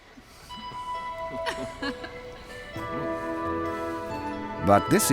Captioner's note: gentle music; people laughing